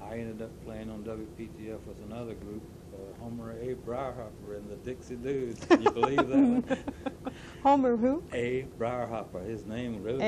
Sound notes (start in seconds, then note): 5.6 laughter